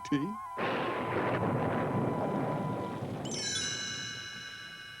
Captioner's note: thunder